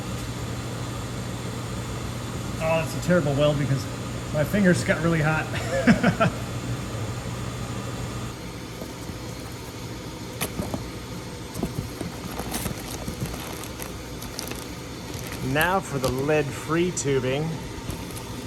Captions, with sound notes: Ah, that's a terrible weld because my fingers got really hot [laughs] [plastic bag crinkles] Now for the lead free tubing...